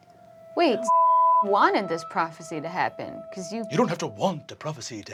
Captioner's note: beeping